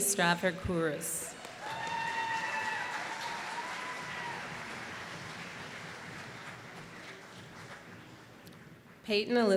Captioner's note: applause